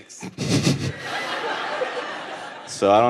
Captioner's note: audience laughing